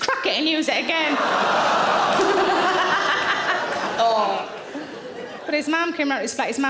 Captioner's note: audience laughing; Sarah laughs